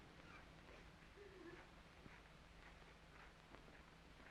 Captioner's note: women sobbing